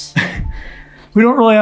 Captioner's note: laughs